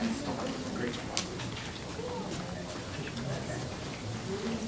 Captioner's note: crowd talking indistinctly